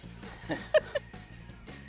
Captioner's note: laughs